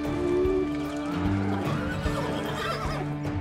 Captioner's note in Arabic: صهيل الخيول